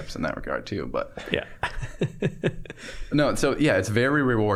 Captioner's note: chuckling